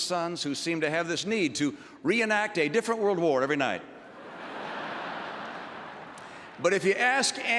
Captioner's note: laughter